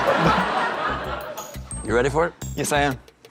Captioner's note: laughter